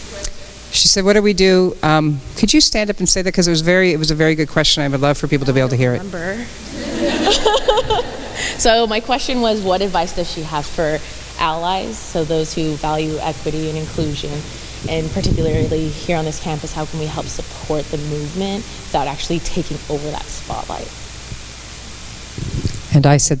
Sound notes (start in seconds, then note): 6.6 audience member laughs